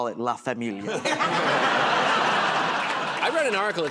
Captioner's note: laughter